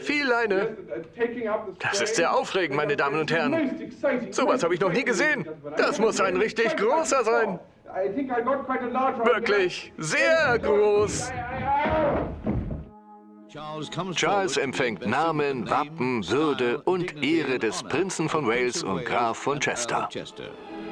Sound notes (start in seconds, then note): 10.0 yells; 13.1 voiceover